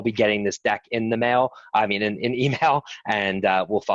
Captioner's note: chuckles